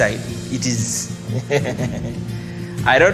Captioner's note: laughs